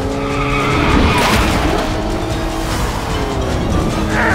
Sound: tires screeching

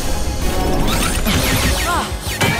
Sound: whooshes

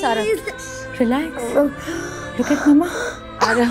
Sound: gasping; coughing

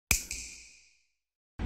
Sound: snap

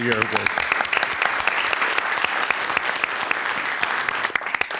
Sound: audience clapping

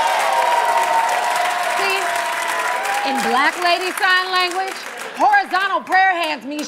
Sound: cheers and applause

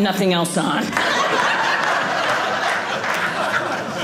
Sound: audience laughing

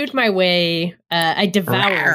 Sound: reowrs suggestively

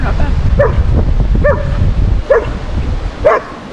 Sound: dog barking

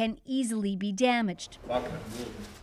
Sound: speaking Foreign Language

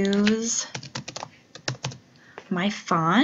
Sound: keys click

